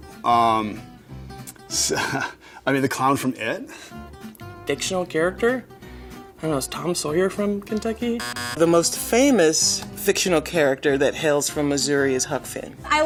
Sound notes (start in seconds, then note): 1.8 laughs; 8.2 buzzer beeps